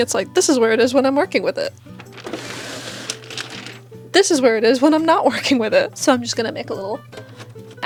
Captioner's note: machine sliding, paper crinkling